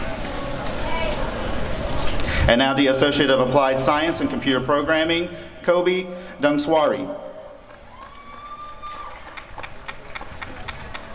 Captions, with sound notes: And now the Associate of Applied Science in Computer Programing— Coby Dovangsouri [applause and cheering]